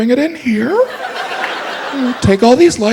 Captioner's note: audience laughs